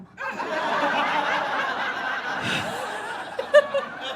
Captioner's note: audience guffaws